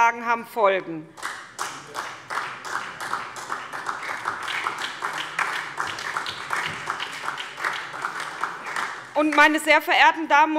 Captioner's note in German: Beifall SPD